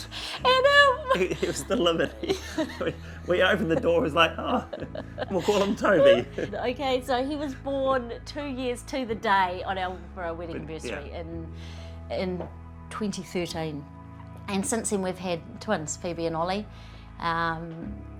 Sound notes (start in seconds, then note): 0.3 laughs; 5.4 both laugh